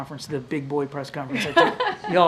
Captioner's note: laughs